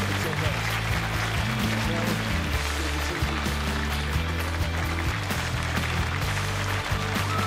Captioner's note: applause